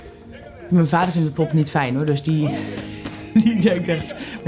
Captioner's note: laughs